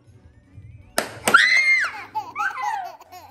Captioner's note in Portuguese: Grito